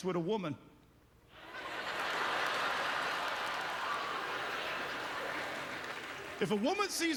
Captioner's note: audience laughter